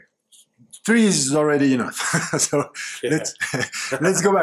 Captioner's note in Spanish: risas